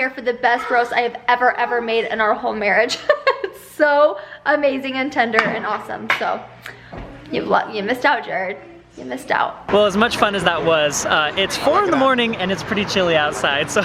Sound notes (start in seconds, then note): 3.0 laughs